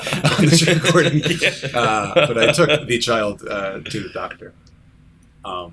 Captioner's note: laughter